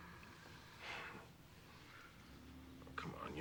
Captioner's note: sighs